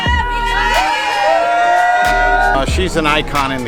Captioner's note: group screaming